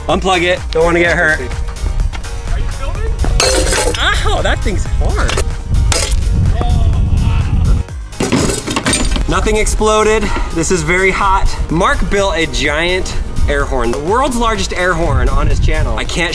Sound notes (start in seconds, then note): 3.4 crashing; 6.4 crashing